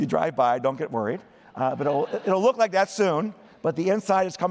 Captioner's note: laughter